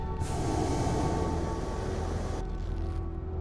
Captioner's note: none